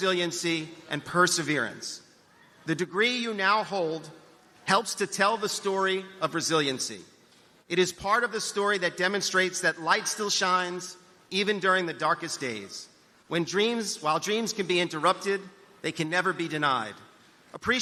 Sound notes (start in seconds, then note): none